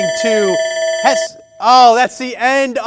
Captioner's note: alarm rings